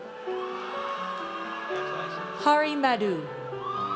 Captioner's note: audience cheers